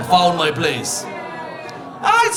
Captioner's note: audience laughing